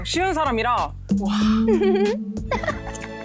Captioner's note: feeling strange sound effect